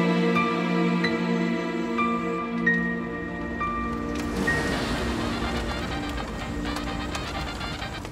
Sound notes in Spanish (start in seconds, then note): 3.9 Ruido del vehículo